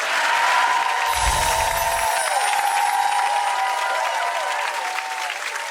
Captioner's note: audience clapping